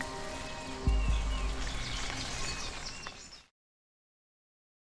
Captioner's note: birds chirping